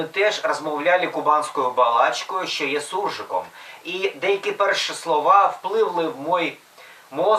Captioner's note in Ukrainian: смесь русского и украинского